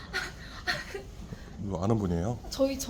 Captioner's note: nervous laugh